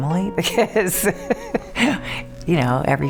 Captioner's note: laughing